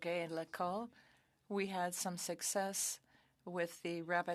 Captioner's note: speaking French